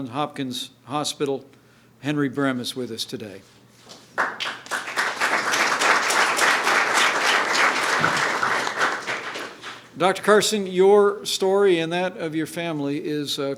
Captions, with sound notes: Hopkins Hospital, Henry Brem is with us today. (applause) Dr. Carson, your story and that of your family is a